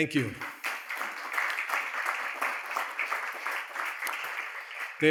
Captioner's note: crowd applauding